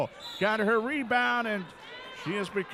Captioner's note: referee whistling